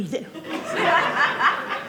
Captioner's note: audience laughing